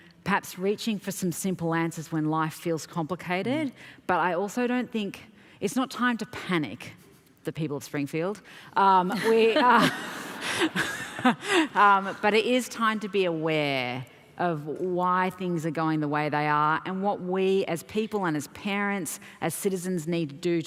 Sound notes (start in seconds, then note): 15.1 laughter